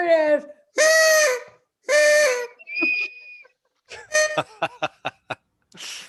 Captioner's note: party noise-makers